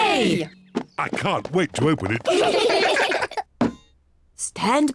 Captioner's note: all giggle